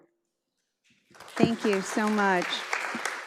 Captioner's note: audience applauds